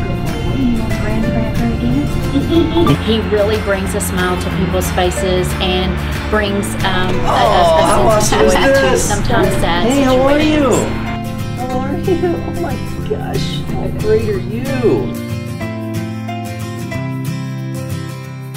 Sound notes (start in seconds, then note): 2.7 laughs; 6.8 people laugh; 15.0 upbeat guitar music